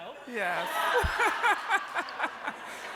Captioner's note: laughter